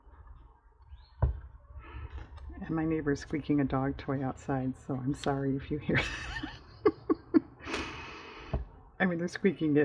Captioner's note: laughs